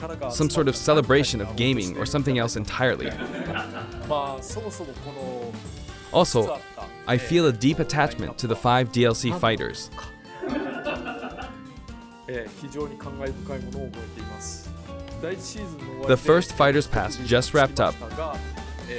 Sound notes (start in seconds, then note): 3.0 laughter; 10.3 chuckles